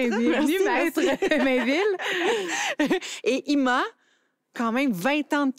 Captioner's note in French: rires